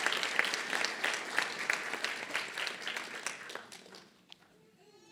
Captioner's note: applause